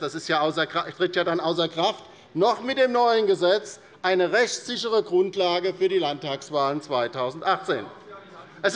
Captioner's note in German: none